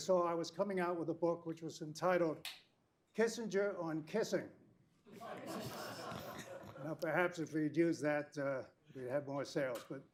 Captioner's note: laughter